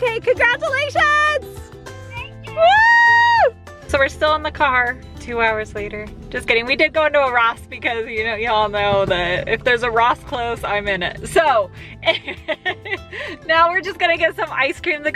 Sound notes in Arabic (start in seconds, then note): 3.4 هتافات